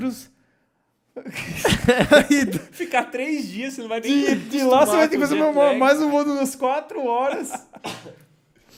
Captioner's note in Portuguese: risos